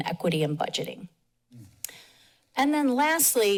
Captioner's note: pause